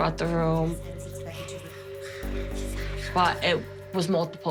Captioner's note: whispering